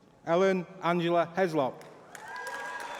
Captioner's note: applause